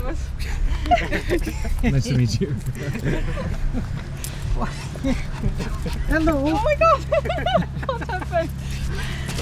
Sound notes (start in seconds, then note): 0.7 laughter